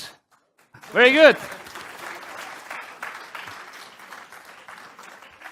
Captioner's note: applause